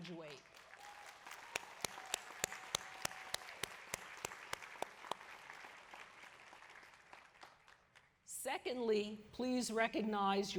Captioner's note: applause